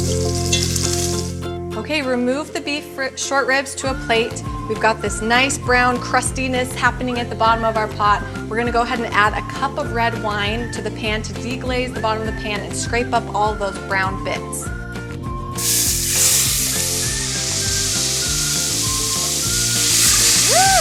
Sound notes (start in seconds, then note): 15.5 meat sizzling; 18.8 upbeat music continues